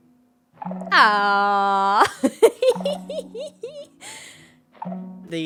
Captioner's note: laughs